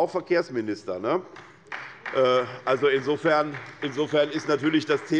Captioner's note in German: Beifall bei der SPD